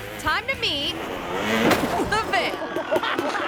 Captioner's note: body thumps; audience laughing